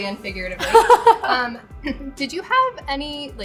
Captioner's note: laughing